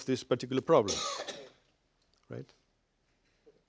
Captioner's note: cough